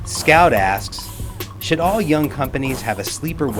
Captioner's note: voiceover